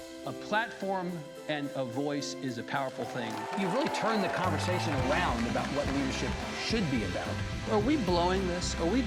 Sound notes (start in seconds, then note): 0.0 lively music; 3.0 audience cheering